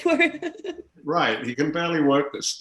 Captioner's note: laughing